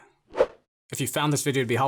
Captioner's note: air whooshing